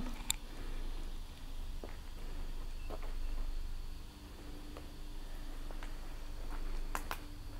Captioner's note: footsteps and wind in the background